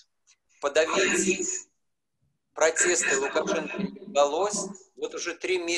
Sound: speaking foreign language

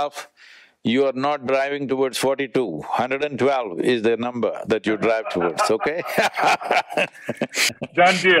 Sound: both laugh

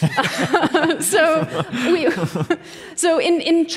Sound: laughter

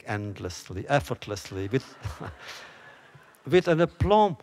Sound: laughter

